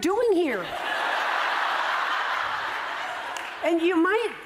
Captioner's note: laughter